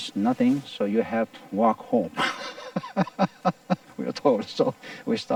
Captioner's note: laughing